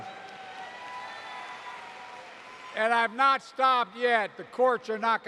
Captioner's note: applause